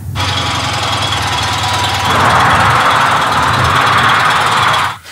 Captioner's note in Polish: dźwięk jadącego samochodu